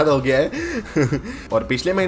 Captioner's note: laugh